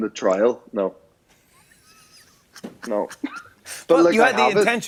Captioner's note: laughs